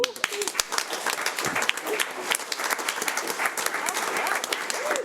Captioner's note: audience applauds